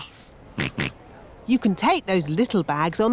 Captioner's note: snorts